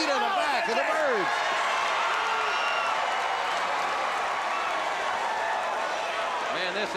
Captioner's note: crowd cheering